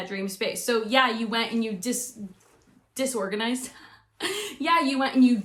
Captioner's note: chuckles